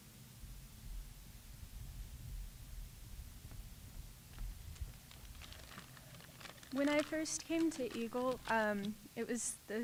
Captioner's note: applause